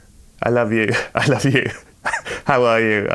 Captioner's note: laughter